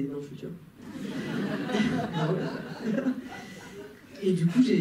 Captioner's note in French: rires